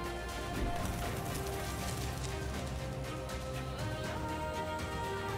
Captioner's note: bird wings flapping